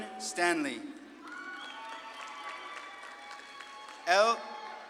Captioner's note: audience claps and cheers